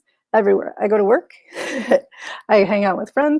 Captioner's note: chuckles